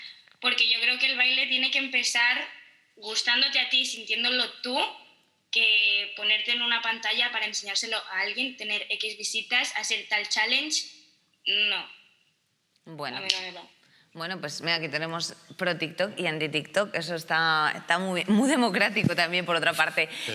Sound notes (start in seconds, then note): none